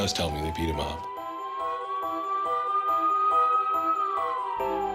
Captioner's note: siren wails